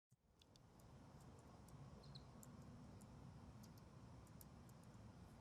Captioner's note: keyboard keys clicking